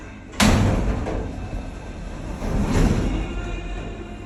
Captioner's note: doors close; doors slam and reopen